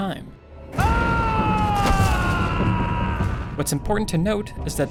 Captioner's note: yell